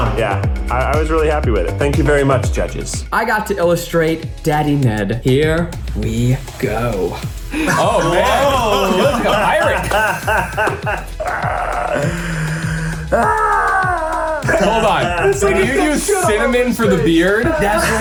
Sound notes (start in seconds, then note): 7.6 everyone laughing; 13.0 squealing